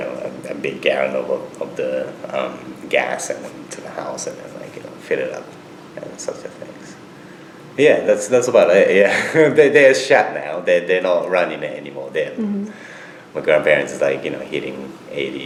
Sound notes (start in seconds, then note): 8.5 laughs